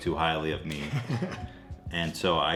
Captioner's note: dad laughs